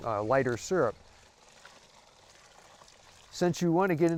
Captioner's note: sap pouring